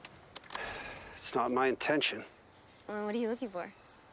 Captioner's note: sighs